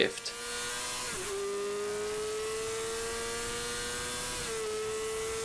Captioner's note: car engine revving